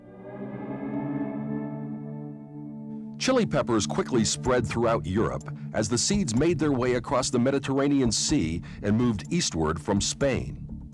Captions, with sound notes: (dramatic swoosh) Chili peppers quickly spread throughout Europe, as the seeds made their way across the Mediterranean Sea, and moved eastward from Spain.